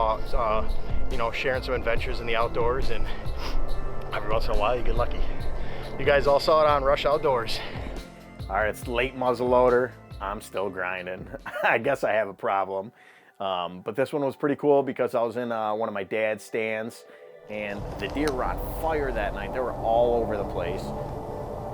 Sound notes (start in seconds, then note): 11.2 laughs; 21.5 light music